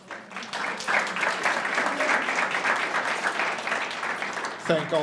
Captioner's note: audience applauds